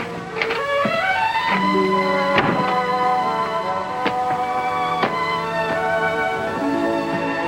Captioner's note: bright orchestral music; door latch clicks; door thuds